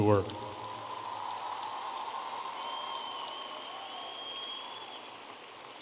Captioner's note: audience applauding and cheering